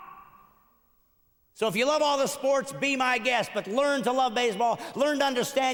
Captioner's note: screaming